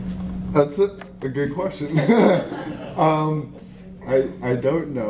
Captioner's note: laughter